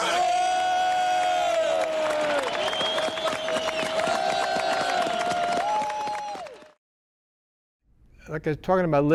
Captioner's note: applause, cheering